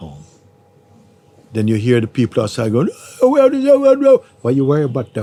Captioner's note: angry shouting